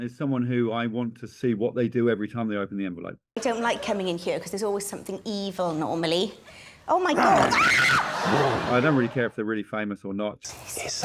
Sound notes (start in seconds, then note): 7.1 she screams; 7.2 growls